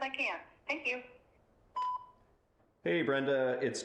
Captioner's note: phone beeps